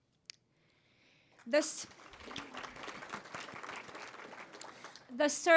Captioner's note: applause